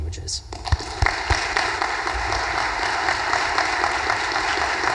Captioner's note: audience applause